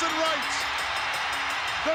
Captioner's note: bell ringing